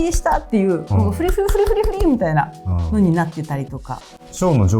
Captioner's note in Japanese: 笑い